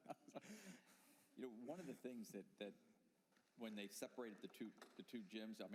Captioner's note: laughter